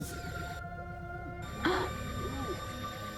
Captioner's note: alien abduction sounds - pretty self explanatory TBH; incredulous gasp followed by open-mouthed gawk